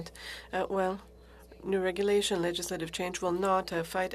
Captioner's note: speaking french